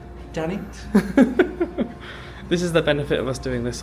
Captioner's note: laughs